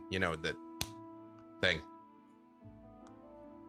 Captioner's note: fist slapping